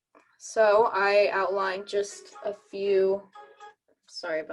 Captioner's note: phone ringing